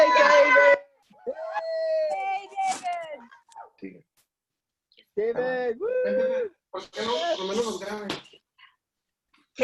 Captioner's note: cheering